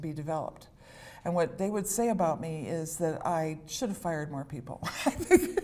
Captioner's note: laughter